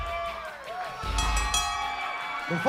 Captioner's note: bell ringing